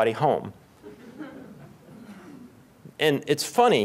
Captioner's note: laughter